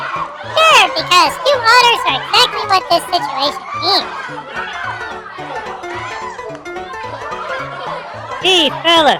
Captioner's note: sarcastically